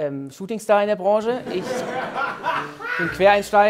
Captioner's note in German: Gelächter